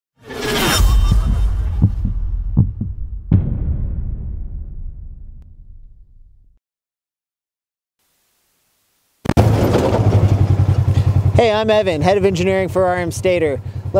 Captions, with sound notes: (heart beating) (running engine) - Hey, I'm Evan, head of engineering for RMSTATOR.